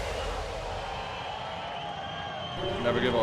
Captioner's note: crowd cheering